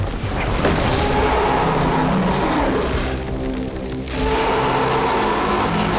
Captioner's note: ominous music; shark roaring